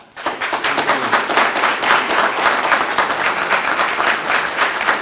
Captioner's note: group applauding